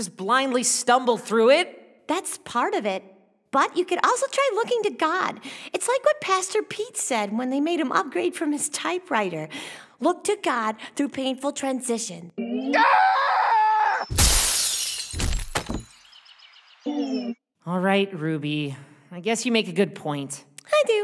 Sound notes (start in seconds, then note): 12.6 scream; 14.0 smashing glass